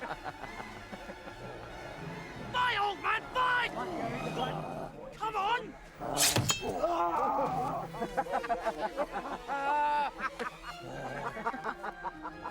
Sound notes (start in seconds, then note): 0.0 men laugh; 4.9 man grunts; 6.8 men laugh; 7.8 man grunts